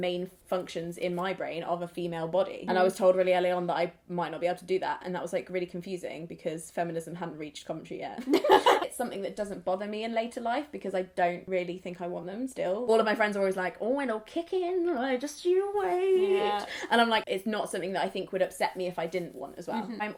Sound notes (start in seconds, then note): 8.3 laughs